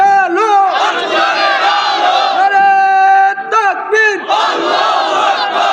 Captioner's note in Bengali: হর্ষধ্বনি